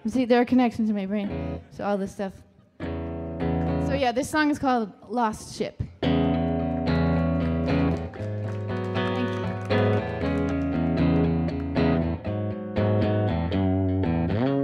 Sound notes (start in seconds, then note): 6.1 light guitar music; 7.8 audience applauding